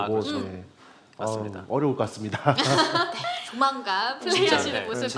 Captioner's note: laughter